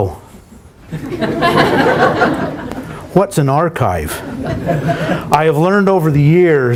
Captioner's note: laughter